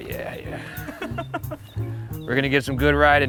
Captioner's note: cameraman laughs